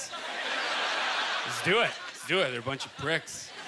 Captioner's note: audience laughter